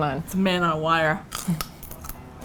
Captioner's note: crunch